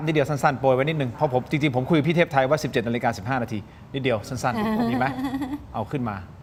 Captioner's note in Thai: เสียงหัวเราะ